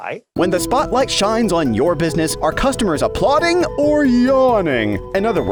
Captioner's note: voice-over